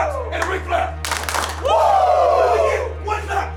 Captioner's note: claps